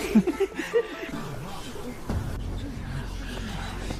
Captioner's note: laughs